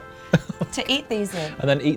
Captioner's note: laughs